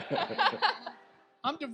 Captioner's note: audience laughs